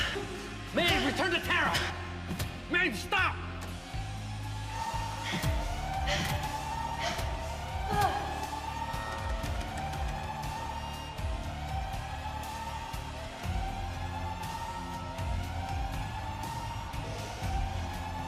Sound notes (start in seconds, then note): 4.1 alarm wailing; 4.1 blows thudding; 13.1 alarm wailing; 13.1 tense music